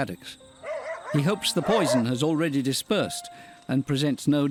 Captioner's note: dogs barking